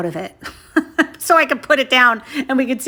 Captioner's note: chuckles